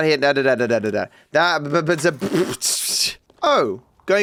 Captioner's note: speaks gibberish